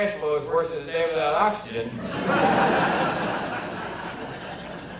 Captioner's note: audience laughter